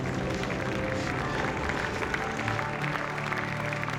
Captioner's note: applauding